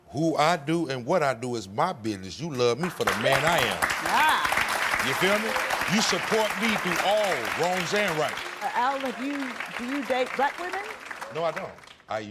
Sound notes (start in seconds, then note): 3.7 crowd applauds